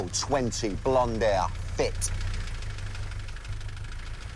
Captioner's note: none